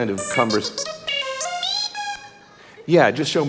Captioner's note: Budd-E beeping